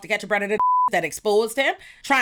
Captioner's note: beep